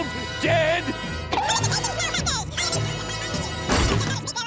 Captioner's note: Plankton squeaking rapidly